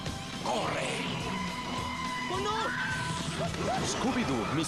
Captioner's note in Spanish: gritos y sonidos